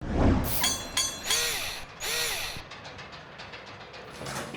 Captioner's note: mechanical SFX